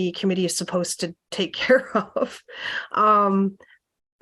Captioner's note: laughter